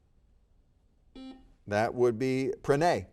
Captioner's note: buzzer beeping